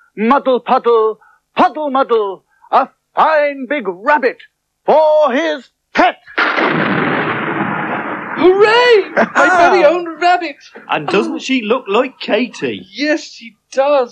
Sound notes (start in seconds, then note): 6.4 sound Of Thunder